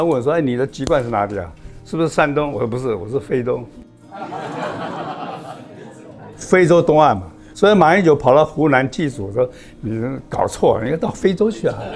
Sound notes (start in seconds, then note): 4.2 laughs